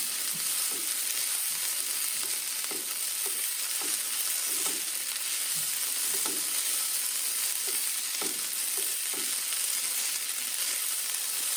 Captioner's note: sizzling